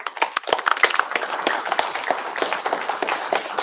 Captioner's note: applause